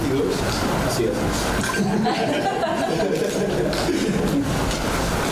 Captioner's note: laughter